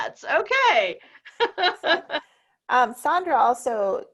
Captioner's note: laughs